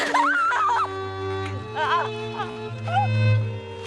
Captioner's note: crying